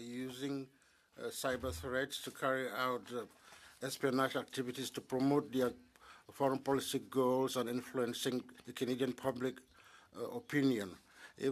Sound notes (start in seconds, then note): 5.9 speaking French